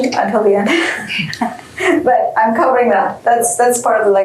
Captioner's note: laughs